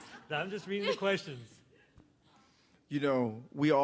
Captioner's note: laughter